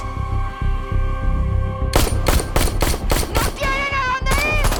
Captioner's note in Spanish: Disparos